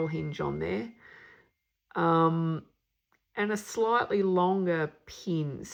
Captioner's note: ding ding ding!